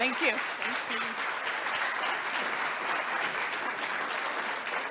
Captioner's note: audience applauding